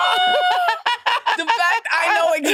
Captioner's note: participants laughing